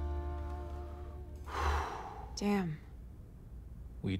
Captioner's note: breaths deeply